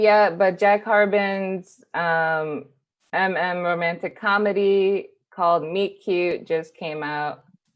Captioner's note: none